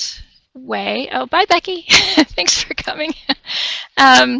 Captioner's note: chuckles